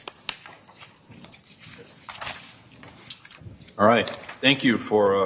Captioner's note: papers rustling